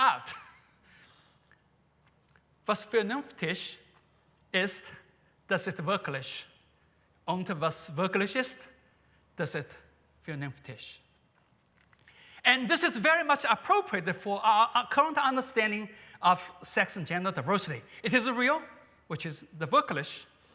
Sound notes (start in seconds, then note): 0.2 chuckles; 2.2 non-english speech; 19.2 non-english speech